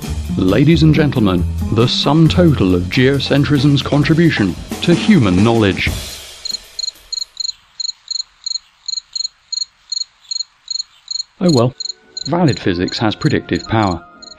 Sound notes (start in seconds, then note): 6.4 sound of crickets